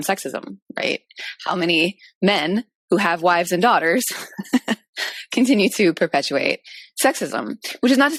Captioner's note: chuckles